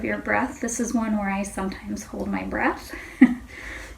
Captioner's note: chuckles